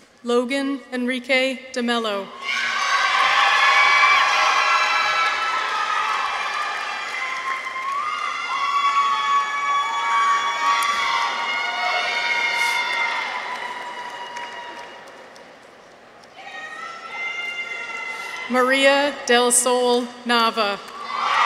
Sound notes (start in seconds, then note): 2.5 audience applauds; 2.5 people cheer